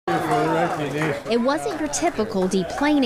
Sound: applause

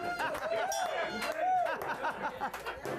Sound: applause; bell rings

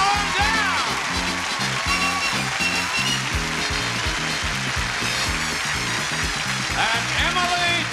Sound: applause

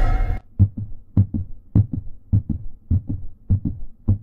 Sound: dramatic music; rhythmic beating

